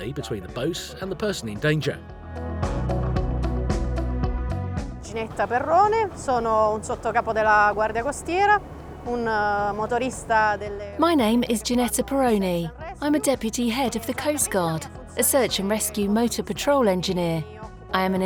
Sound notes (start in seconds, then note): 2.7 upbeat music; 5.3 speaking in foreign language